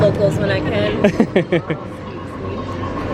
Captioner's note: laughs